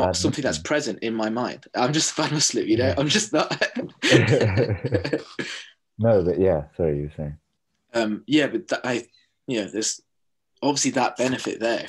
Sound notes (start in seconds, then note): 5.9 laughter